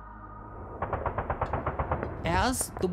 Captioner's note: gun firing